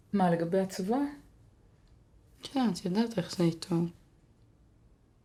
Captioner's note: speaking foreign language